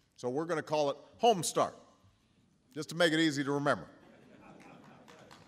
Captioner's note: applause